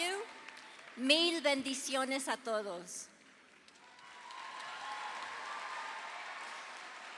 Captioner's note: audience applauding; speaking in foreign language